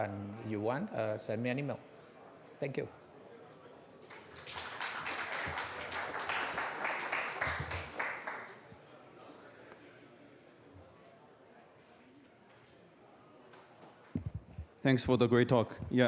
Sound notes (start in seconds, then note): 4.0 applause